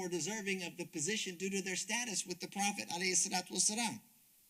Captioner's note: speaks Arabic